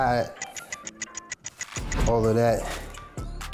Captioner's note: clock ticks